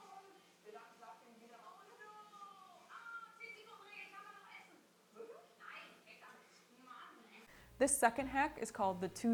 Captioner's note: German TV show audio